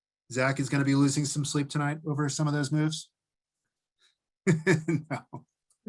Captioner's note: laughter